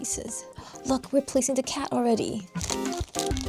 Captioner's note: gasp